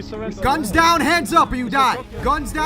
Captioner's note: shouts